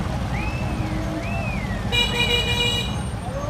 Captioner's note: horn honks